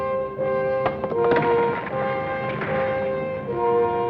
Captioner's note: rock clacks